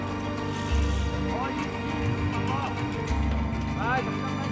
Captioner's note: chattering Continues